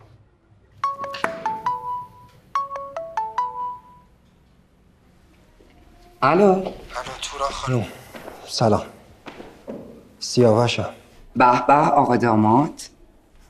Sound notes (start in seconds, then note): 0.8 mobile ringing